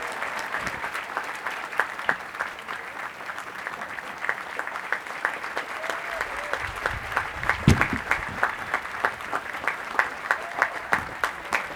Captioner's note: applause